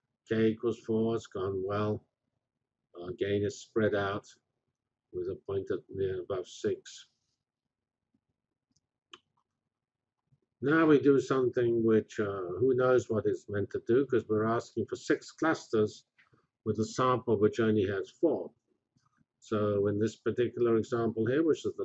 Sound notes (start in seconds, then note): 7.2 pause